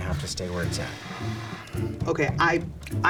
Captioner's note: employee #1 exhales